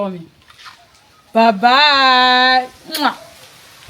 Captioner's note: kisses